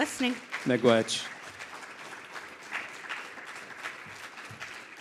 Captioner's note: crowd applauding; foreign language